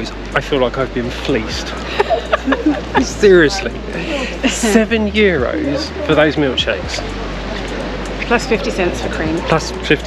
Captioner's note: laughter